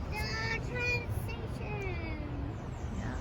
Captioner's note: birds chirping